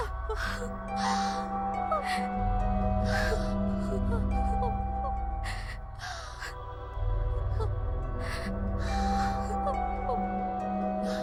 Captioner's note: sobbing